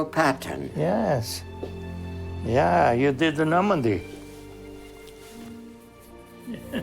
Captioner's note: laughing